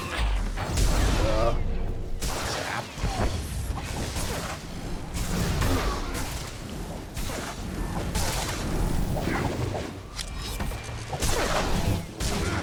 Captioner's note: gunshots